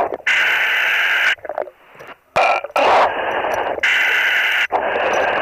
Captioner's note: breathing heavily